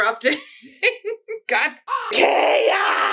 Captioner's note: caw